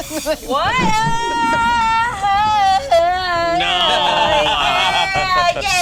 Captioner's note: yells, turning into singing